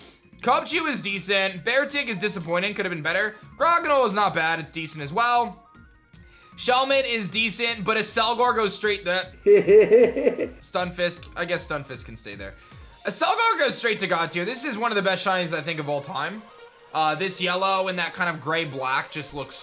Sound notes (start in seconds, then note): 9.4 laughs